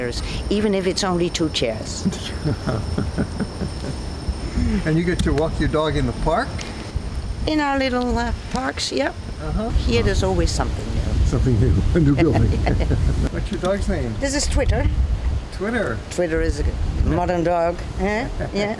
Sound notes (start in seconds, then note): 12.0 laughs